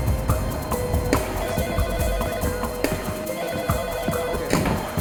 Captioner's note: dramatic music; phone ringing